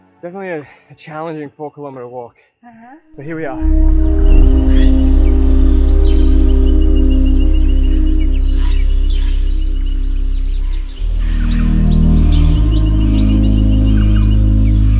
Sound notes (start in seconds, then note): 5.5 birds chirping; 12.1 ominous music